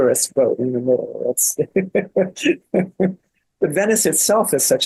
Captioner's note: laughs